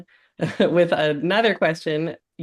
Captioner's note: laughs